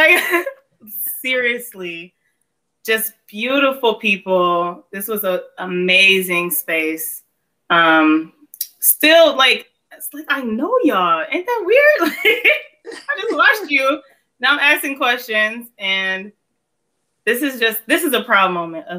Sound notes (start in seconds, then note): 12.8 laughs